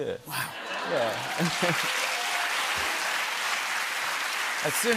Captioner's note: cheers and applause